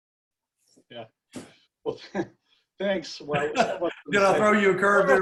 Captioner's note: murmurs